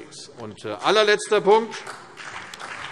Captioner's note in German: Beifall CDU und BÜNDNIS 90/DIE GRÜNEN